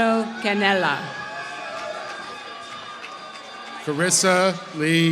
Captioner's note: applause